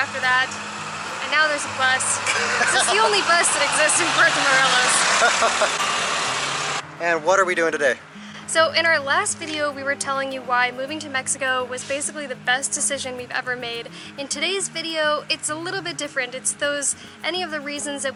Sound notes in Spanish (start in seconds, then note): 5.2 Risas